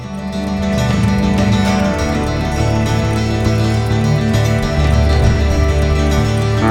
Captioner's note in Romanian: Aplauze